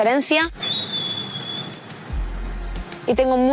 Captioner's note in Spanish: Silbido